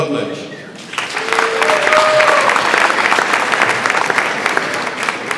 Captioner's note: audience applauds